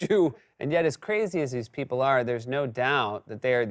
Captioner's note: normal voice